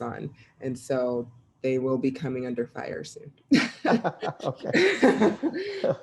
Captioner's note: all laughing